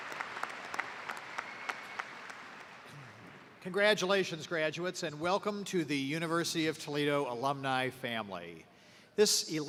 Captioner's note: cheers and applause